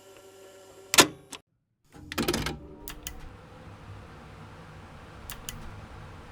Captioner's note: cassete_tape_sfx.mp3